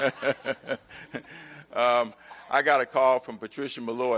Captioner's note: laughter